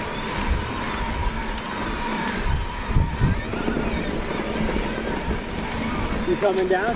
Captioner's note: dirt rustling; bike humming